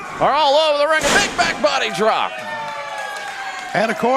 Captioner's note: crowd cheering